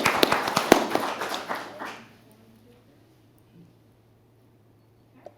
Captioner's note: applause